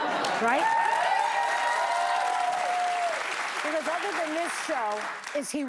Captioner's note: laughter